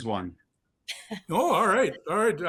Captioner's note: laughs